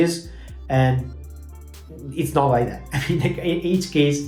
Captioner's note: laughs